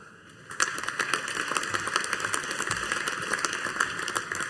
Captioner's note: audience applauding